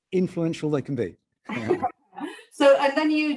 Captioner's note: both laughing